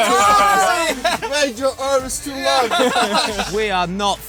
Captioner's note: laughs